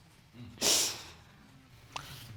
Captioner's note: sniffles